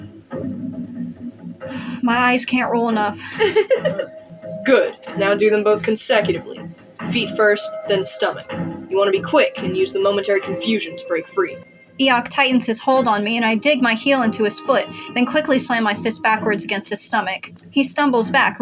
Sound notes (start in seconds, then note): 1.9 sigh; 3.1 laugh